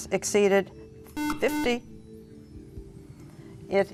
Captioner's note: buzzer